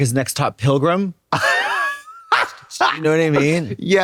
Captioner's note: Trixie cackles